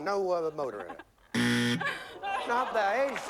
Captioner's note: buzzer